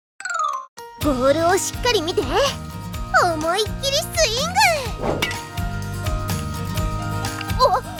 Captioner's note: clank